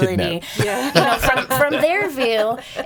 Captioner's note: laughing